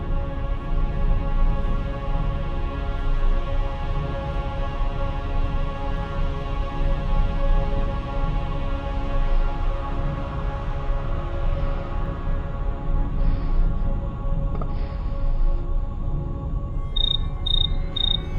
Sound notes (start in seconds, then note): 11.7 Bigfoot breathing heavily; 16.9 insect chirping